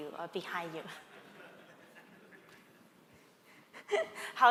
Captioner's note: laughter